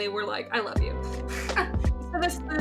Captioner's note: laughs